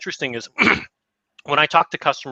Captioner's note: clears throat